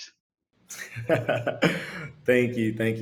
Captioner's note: laughs